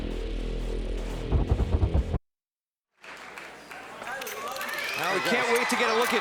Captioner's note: crowd chatter